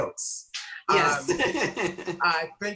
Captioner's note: laughs